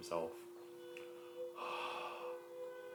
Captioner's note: breath